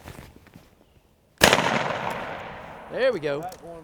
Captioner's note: gunshot cracks